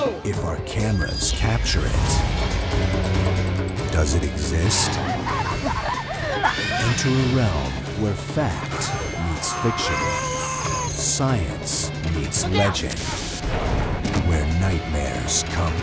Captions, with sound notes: [ WOMAN SCREAMING ] ENTER A REALM WHERE FACT MEETS FICTION... LEAVE ME ALONE! ...SCIENCE MEETS LEGEND.